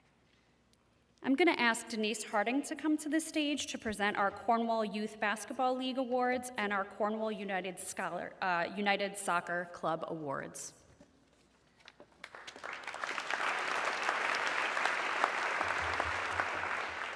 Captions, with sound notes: I'm gonna ask Denise Harding to come to the stage to present our Cornwall Youth Basketball League Awards and our Cornwall United Soccer Club Awards. (audience clapping)